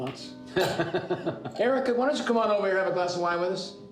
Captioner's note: laughs